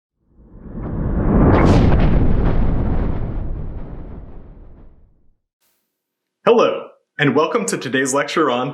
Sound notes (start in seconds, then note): 0.3 thunder